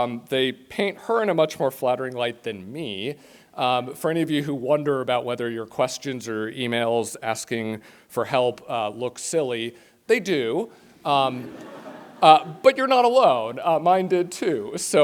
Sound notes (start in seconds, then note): 11.3 laughter